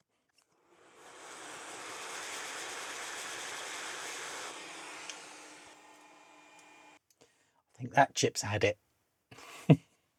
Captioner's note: blender Whirring